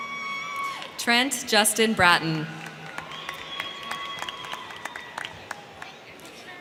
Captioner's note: crowd cheering